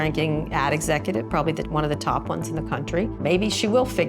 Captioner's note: none